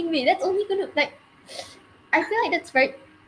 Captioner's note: sniff